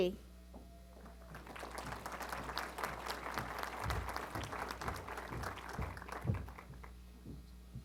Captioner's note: applause